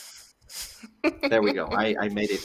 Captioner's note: laughs